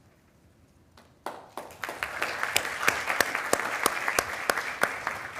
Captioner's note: attendees applauding